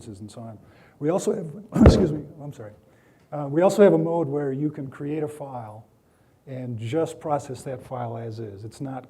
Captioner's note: clearing throat